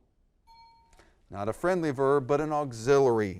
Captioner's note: ding